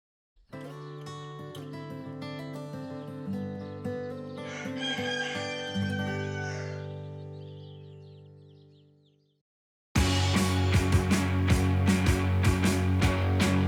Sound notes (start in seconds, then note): 0.4 gentle guitar music; 4.4 rooster crowing; 4.6 birds chirping; 9.9 upbeat music